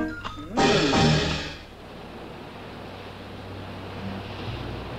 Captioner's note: water whooshing